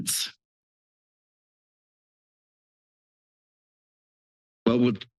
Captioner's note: silence